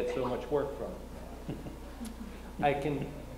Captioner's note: laughs